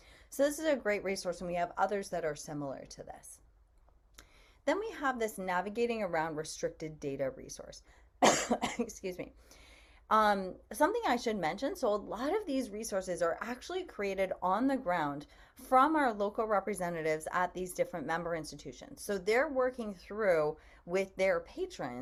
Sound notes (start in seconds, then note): 8.2 coughs